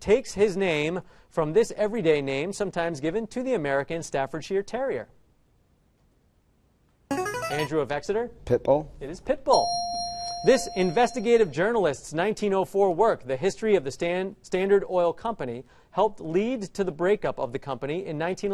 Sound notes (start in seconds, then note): 7.1 answer bell; 9.5 correct answer chime